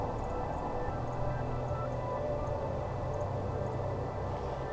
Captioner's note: birds chirping